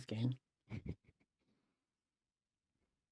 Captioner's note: laughs